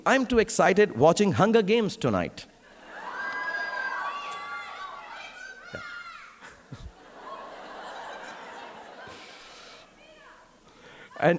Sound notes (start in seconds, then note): 2.7 audience cheering; 6.3 audience laughing